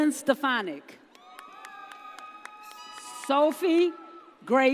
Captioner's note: audience cheers